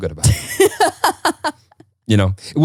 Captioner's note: laughing